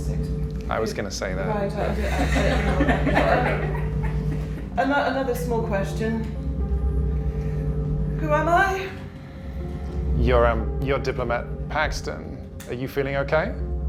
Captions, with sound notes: - I was gonna say that. - Right. (everyone chuckles) Another small question. Who am I? - You're Diplomat Paxton. Are you feeling okay?